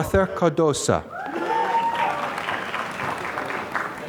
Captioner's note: applause